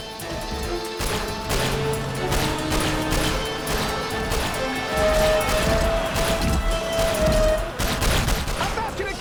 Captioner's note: gunshot